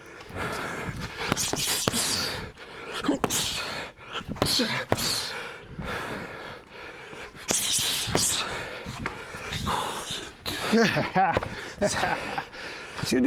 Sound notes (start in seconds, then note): 6.4 breathing; 9.5 laughing